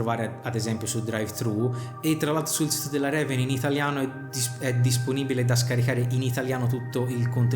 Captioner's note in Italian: in italiano